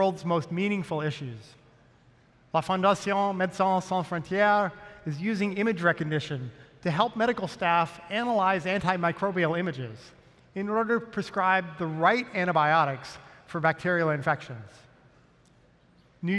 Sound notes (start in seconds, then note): none